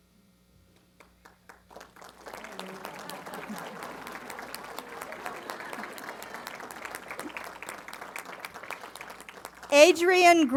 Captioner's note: applause